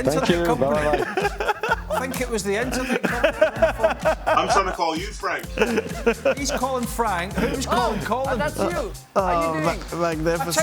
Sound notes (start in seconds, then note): 0.6 laughter